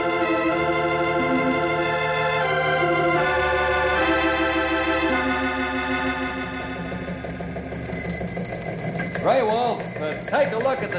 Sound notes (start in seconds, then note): 0.0 dramatic music; 7.6 phone ringing